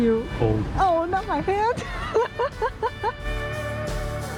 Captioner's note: laughs